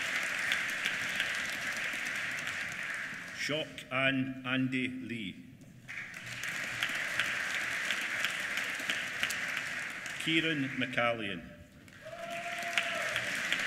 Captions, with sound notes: Quoc An Andy Ly. (APPLAUSE) Kieran McCallion. (APPLAUSE)